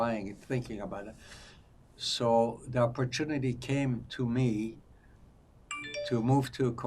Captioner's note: phone ringing